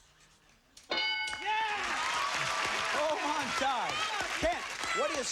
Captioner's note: cheers and applause